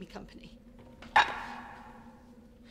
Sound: clank noise

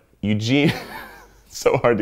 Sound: laughing

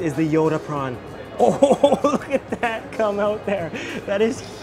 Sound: laughs

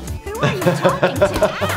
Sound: laughs

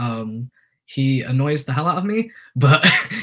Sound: chuckles

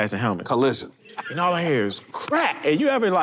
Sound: person laughs

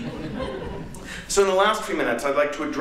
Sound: laughter

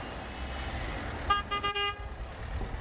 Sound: beeps car horn

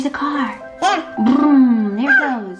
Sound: coos

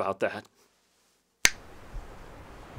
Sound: snap fingers

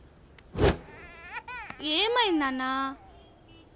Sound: baby crying

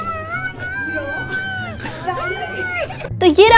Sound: crying

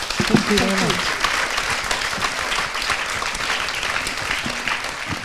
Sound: audience applauding

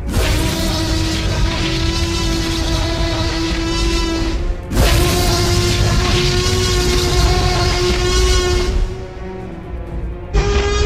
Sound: roaring Loudly

